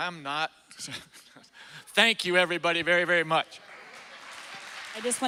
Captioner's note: chuckles